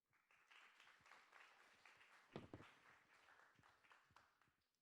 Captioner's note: applause